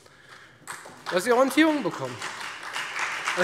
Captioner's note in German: Beifall Freie Demokraten, vereinzelt CDU BÜNDNIS 90/DIE GRÜNEN und SPD